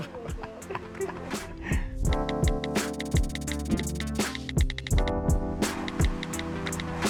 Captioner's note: mellow music; keyboard typing